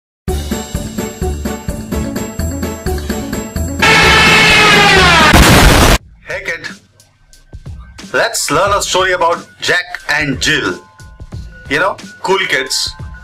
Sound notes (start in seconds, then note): 3.8 Junkers Ju 87 dive bomber siren; 3.8 explosion